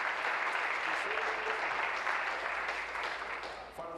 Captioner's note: applause